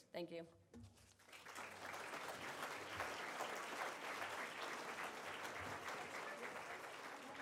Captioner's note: audience applauds